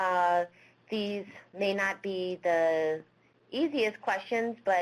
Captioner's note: Vietnamese